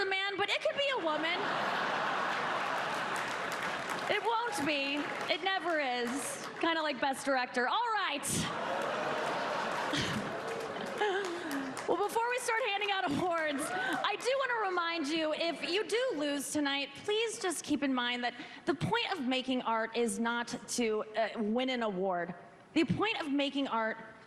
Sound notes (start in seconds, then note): 8.4 laughter